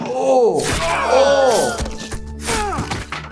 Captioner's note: people grunting; swords slicing; bodies thudding